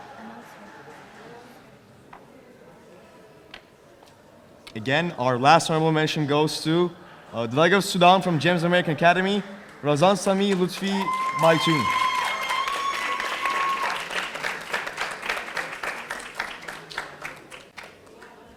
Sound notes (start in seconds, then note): 11.3 audience cheering; 12.3 audience applauding